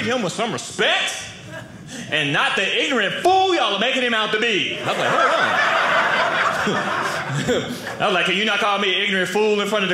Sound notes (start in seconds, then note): 4.7 audience laughing